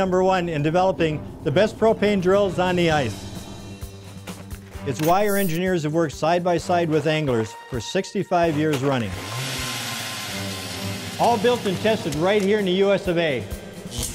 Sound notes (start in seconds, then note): 9.1 drill running; 13.9 electricity sparks and fire crackles